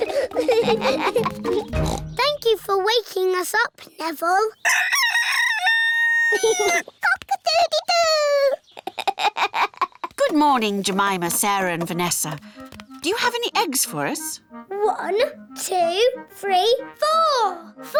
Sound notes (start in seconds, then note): 1.7 oinks; 4.8 neville crows; 8.7 giggles; 8.7 laughs